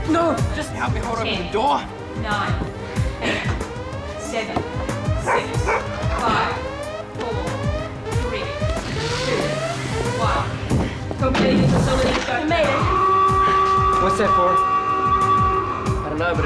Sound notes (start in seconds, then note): 5.2 barking; 12.6 klaxon alarm blaring